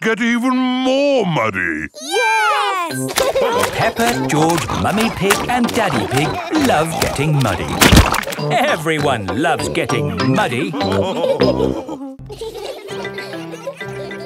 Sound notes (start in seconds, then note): 2.9 laughing; 10.6 laughter